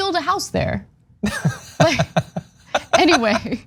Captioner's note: laugh